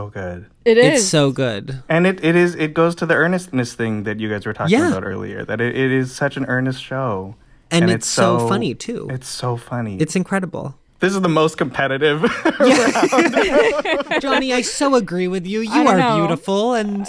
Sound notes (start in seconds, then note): 12.2 laughter